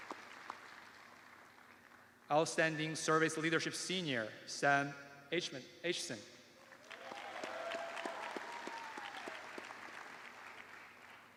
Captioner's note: cheers and applause